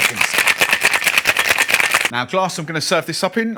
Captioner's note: cocktail shaker clinking